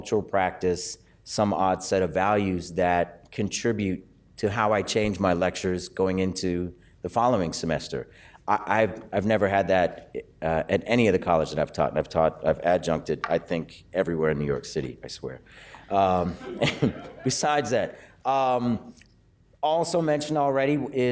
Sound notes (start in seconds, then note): 16.2 laughter